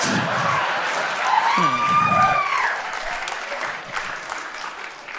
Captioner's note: audience cheers and applauds